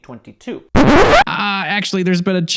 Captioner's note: record screeches